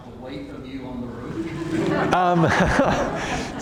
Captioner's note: laughter